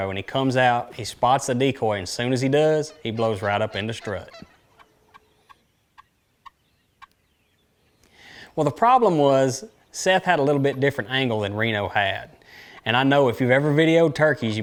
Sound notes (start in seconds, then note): 7.3 turkey calling